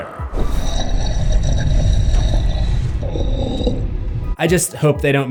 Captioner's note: breathing sound